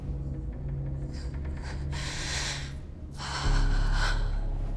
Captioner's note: breathing sharply